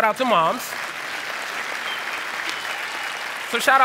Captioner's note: applause; cheer